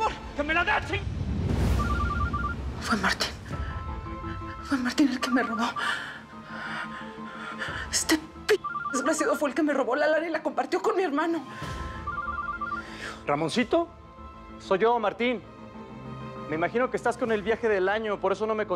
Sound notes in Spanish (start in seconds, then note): 1.8 suena el celular; 11.7 suena el celular